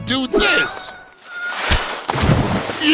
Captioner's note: Ice Cube screams